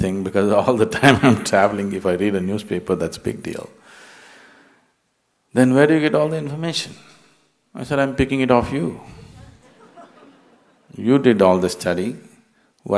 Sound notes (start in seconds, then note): 9.1 laughter; 9.1 笑聲